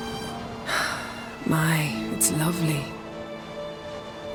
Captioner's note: sigh